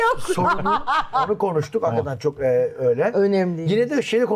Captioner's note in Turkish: kahkaha